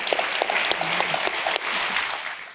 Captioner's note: audience applauding